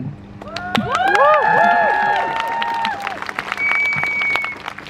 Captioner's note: crowd cheers